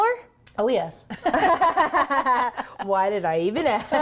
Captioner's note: laugh